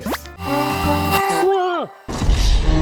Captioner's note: drill bit whirring